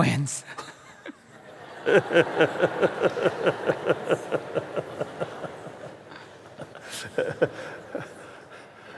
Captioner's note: laughter